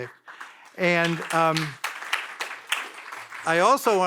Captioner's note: audience applauds